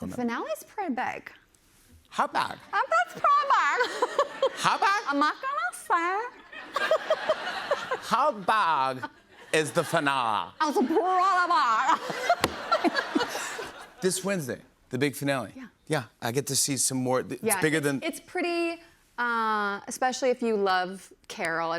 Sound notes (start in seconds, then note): 6.3 laughter; 11.6 laughter